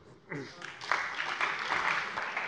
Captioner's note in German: Beifall bei der CDU und dem BÜNDNIS 90/DIE GRÜNEN